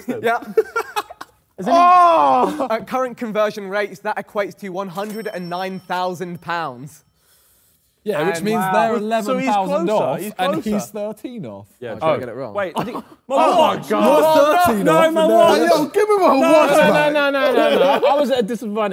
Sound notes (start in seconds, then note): 1.6 Tobi yells; 2.2 laughs